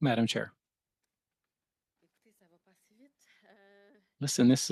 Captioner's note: speaking French